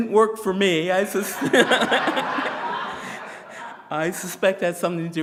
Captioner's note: presenter laughing